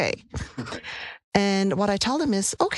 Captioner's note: laugh